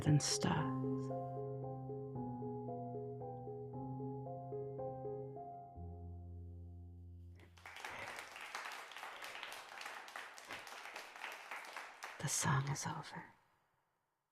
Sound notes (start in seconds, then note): 7.4 polite clapping as the song ends